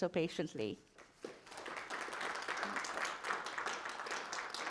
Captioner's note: audience applauding